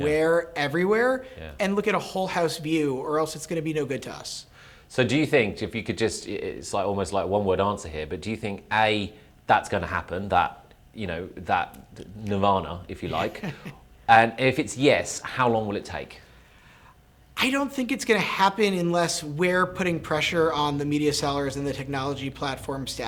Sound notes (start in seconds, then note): 13.0 laugh